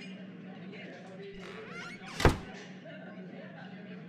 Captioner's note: door open and close